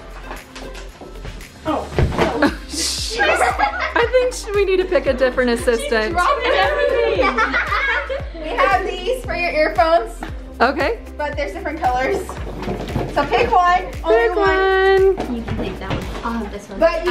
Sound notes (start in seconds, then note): 3.1 laughter